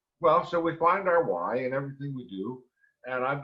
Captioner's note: none